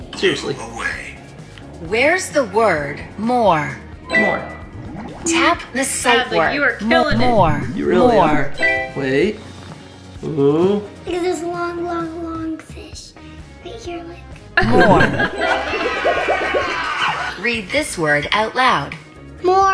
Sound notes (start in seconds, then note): 4.1 phone beeping